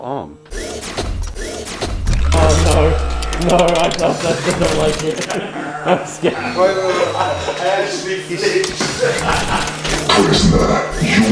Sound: mechanical footsteps

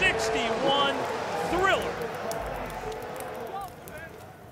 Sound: fire crackling

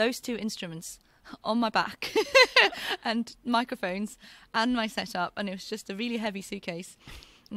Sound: laughs

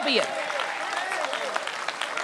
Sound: applause

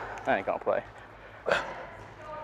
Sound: cough

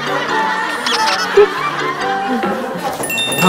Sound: ahaha

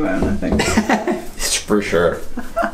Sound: laughter

